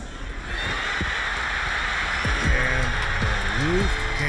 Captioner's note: crowd cheering